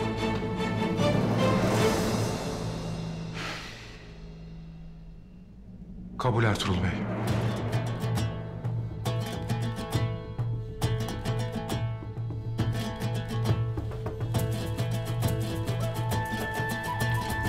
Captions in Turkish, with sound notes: (İç çekiyor) Kabul Ertuğrul Bey. (Hareketli müzik...)